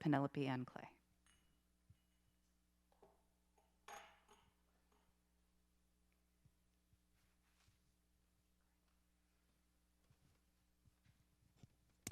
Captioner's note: silence